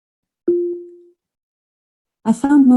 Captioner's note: electronic beep